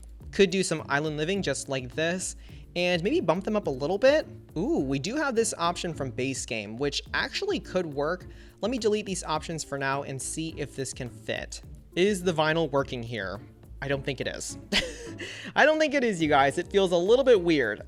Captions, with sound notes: Could do some Island Living just like this, and maybe bump them up a little bit. Oooh! We do have this option from base game which actually could work. Let me delete these options for now and see if this can fit. Is the vinyl working here? I don't think it is! (Chuckles) I don't think it is, you guys. It feels a little bit weird.